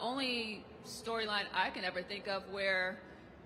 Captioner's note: none